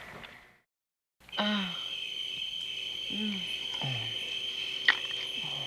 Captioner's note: crickets; moans; kissing